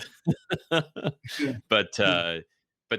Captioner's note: all laugh